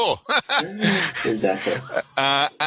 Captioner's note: laughing